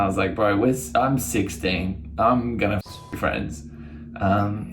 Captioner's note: beep